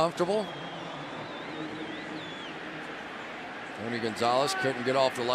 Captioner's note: pa announcement